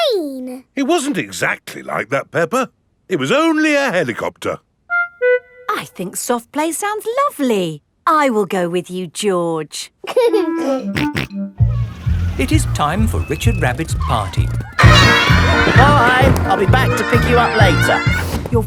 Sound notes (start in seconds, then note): 10.5 giggling and snorting